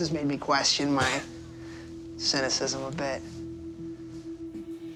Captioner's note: laughs